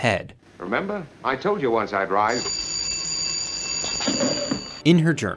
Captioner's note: phone rings